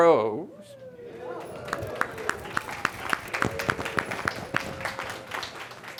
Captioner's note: audience clapping and cheering